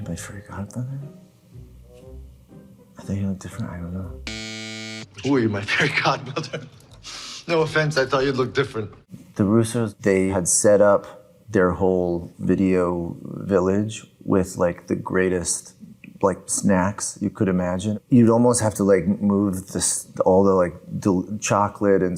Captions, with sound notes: "Who are you, my fairy godmother? "I thought you'd look different," I don't know. (buzzer buzzes) - Who are you, my fairy godmother? (laughing) No offense, I thought you'd look different. - The Russos, they had set up their whole video village with the greatest snacks you could imagine. You'd almost have to move all the chocolate